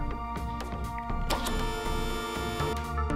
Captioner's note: car lifter whirs